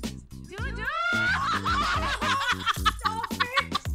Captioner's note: Both laughing